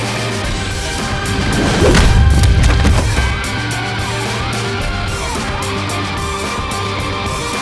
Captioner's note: air whooshing; kick thuds